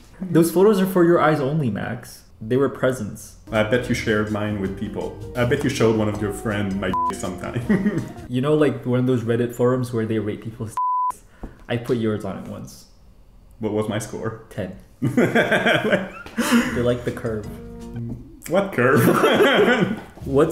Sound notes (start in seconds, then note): 15.0 laughs; 18.9 both laughing